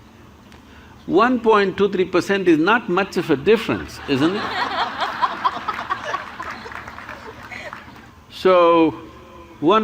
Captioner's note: laughter